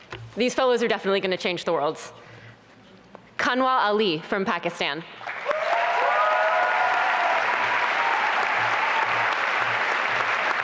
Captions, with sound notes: These Fellows are definitely going to change the worlds. Kanwal Ali, from Pakistan. [APPLAUSE AND CHEERING]